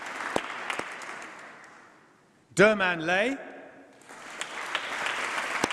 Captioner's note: applause